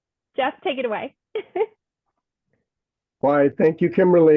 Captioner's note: giggles